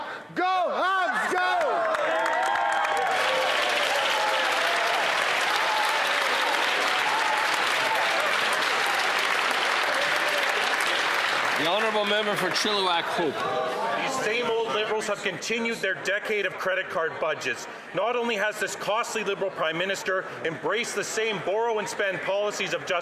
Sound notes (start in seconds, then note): 9.6 applause